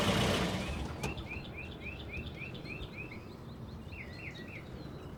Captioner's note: birds chirping